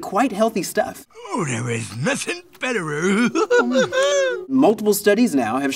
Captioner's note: chuckles